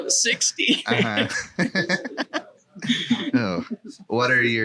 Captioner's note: laughing